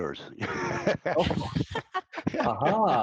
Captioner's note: all laughing